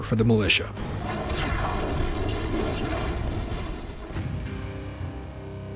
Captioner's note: explosion